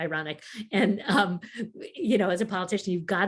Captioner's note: chuckles